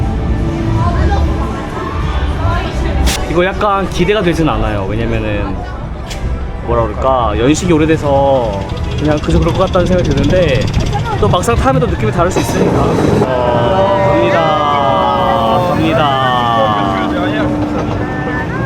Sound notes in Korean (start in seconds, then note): 12.9 와아